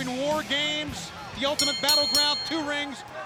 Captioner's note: bell ringing